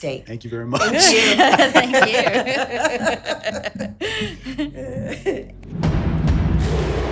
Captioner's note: group laughing; suspenseful music